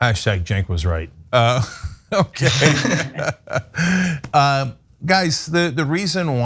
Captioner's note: laugh